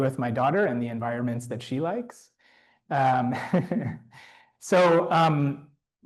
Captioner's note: laughs